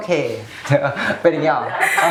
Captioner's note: laughs